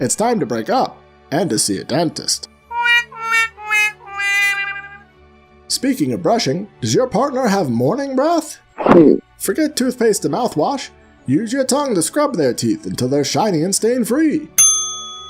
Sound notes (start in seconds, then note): 8.2 stiffled vomit; 14.6 ding